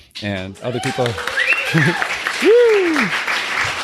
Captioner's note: crowd cheering